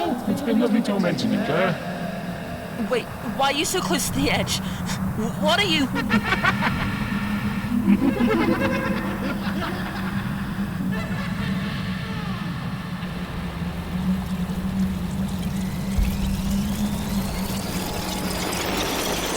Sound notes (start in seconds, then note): 5.6 rapidly unspooling tape sound from mag 200; 5.6 tape clicks off